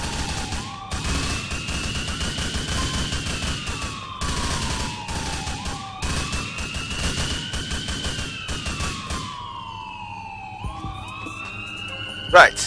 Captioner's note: gunfire